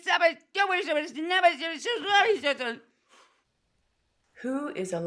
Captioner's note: patient babbles